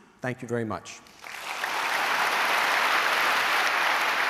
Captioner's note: applauding